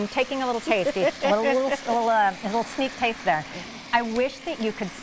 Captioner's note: laughs